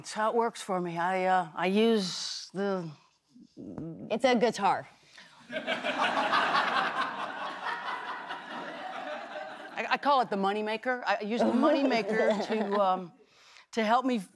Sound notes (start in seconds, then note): 5.4 laughter